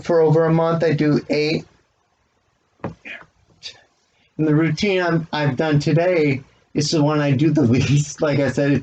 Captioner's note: chuckles